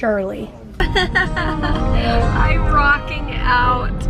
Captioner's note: laughter